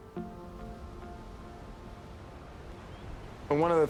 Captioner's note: blowing wind